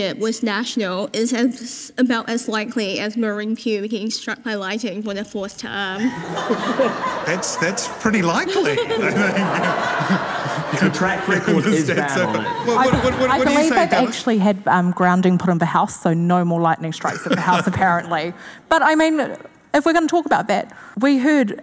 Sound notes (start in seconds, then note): 6.4 audience laughing; 9.1 audience laughing